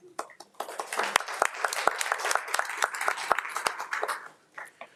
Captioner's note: crowd applauding